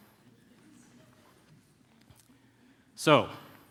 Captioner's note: laughter